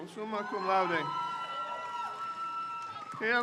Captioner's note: crowd cheers